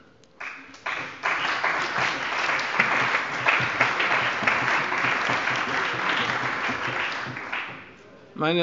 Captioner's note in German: Beifall bei der CDU